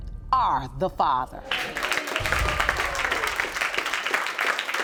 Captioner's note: audience applauding